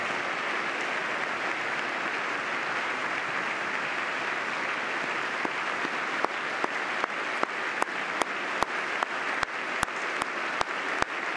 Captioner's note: applause